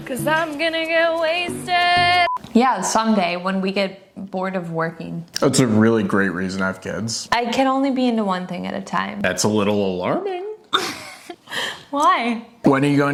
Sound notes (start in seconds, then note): 10.7 chuckles